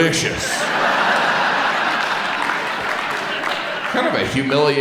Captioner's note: audience laughs